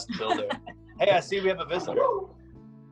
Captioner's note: laughs